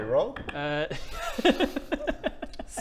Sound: laughs

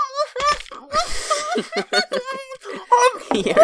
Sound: chuckles

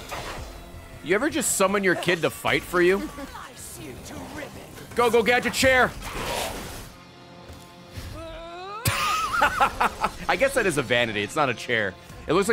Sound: laughs

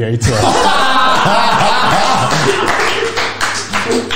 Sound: group laughs

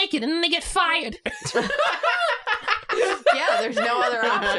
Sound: laugh at the boy's evil clothespin schemes

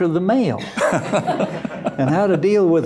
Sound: laughter

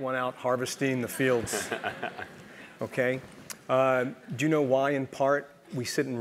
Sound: laugh

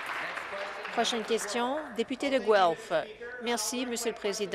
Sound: applause

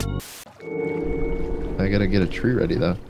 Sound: Minecraft ambiance sound

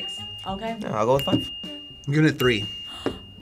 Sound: bell dinging

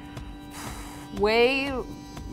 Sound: exhales sharply

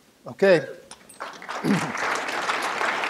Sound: applause

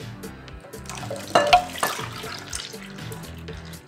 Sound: milk splashes

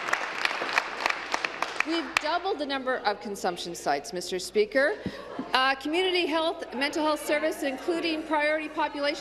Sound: applause

